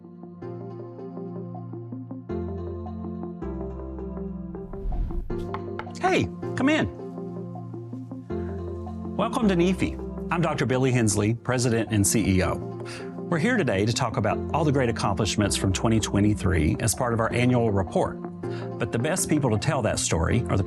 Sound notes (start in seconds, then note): 0.1 upbeat music; 5.6 cameraman knocks on door; 7.5 upbeat music continues